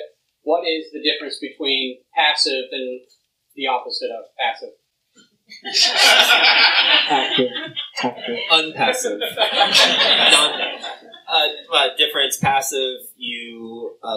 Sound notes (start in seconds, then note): 5.6 laughter